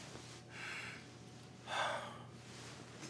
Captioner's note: sighs